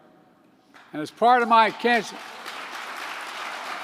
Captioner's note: applause